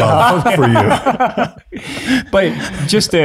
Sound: group chuckles

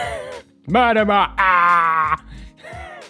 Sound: marilyn monroe noises

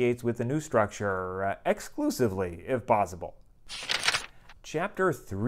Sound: page turn

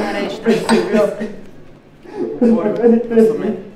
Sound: sobbing

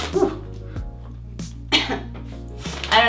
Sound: cough

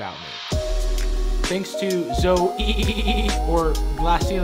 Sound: stuttering

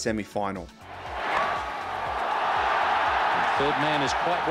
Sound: crowd cheering

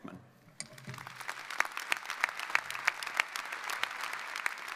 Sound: audience applauding

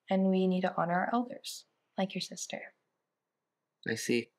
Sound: Danny chuckles

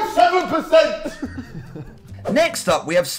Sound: Sidemen chuckling

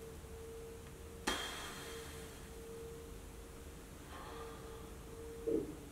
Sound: exhales

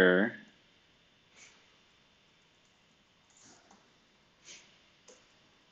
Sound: computer keyboard clicking

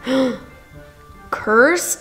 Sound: gasping

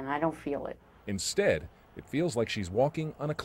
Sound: voiceover

